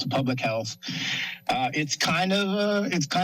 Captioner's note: breaths steadily